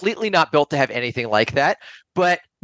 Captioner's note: laughs